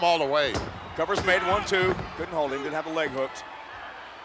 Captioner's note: referee smacking mat